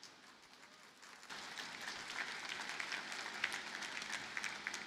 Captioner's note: audience applauding